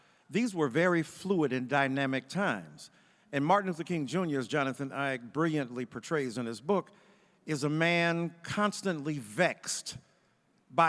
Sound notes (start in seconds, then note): none